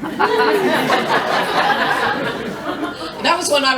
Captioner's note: laughter